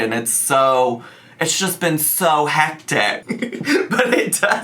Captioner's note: chuckles